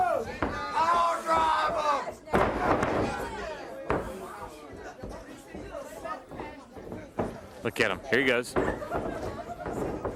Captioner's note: crowd chatter